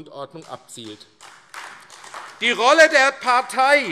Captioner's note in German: Beifall AfD